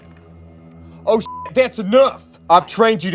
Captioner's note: beep